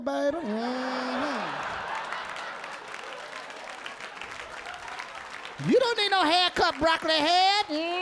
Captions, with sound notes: (audience laughing) (audience clapping) You don't need no headcap broccoli head.